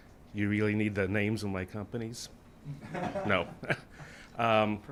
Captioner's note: chuckles